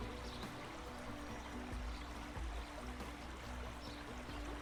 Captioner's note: water rippling